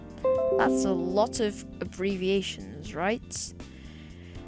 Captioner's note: Windows system notification sfx